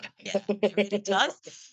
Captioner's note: laughs